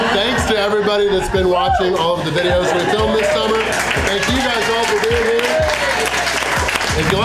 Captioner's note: crowd laughter; crowd applause